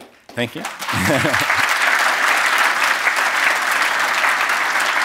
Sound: applause

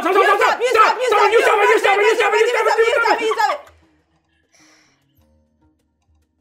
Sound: both screaming at one another to stop

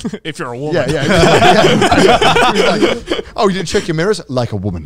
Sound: all laughing

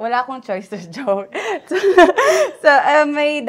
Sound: laughs

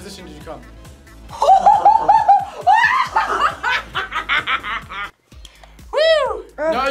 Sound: laughs

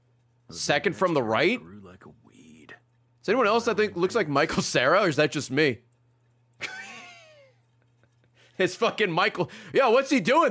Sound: laughs

